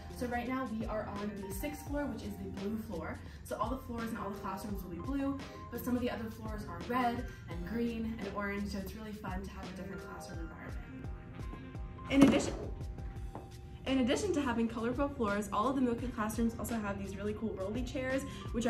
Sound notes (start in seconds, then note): 12.1 desk clatters